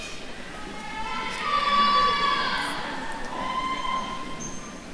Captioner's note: attendees cheering